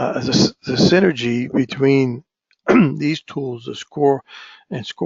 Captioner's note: cough